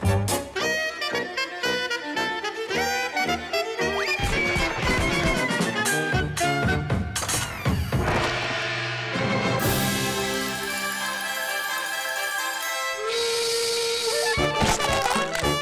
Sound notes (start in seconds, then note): 13.0 train horn blowing